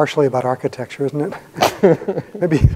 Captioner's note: both laughing